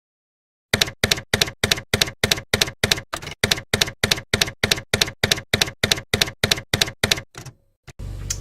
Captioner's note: typewriter keys clacking